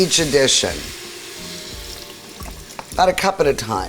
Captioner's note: sizzling